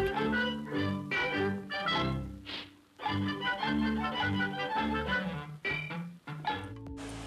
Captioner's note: cheerful music; cartoon sounds